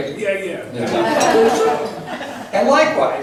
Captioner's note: laughs